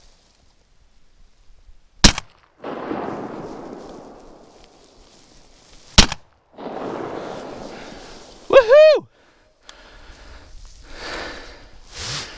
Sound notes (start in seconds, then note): 2.1 gunshots